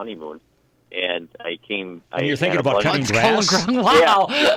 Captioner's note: laughing